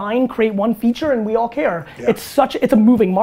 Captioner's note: none